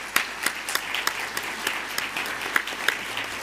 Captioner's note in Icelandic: fagnaðarlæti